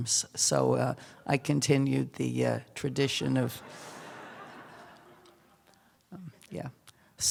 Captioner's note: laughter